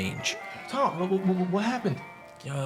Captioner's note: stammers